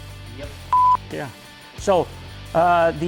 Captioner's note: beep